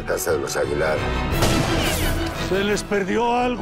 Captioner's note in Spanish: Disparo